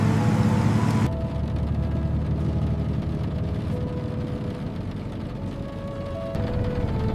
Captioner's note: engine humming along the canyon track